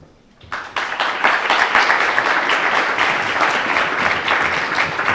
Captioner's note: audience applause